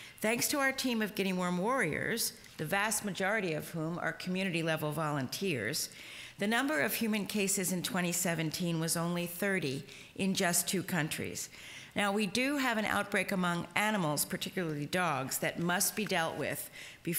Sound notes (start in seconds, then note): none